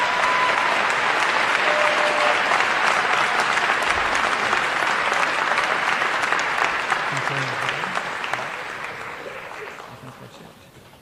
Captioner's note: applause